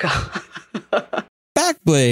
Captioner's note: laugh